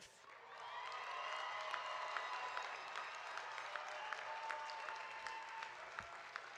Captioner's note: audience applauding; audience cheering